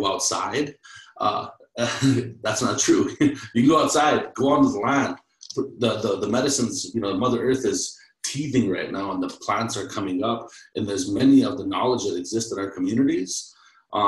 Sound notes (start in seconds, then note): 1.8 laughs